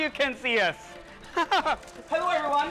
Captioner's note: laughter